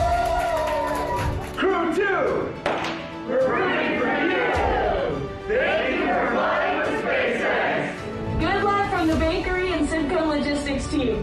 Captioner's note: cheers and Applause